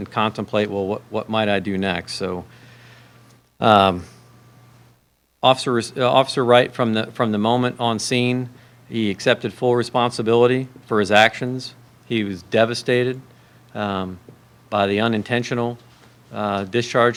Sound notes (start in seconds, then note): none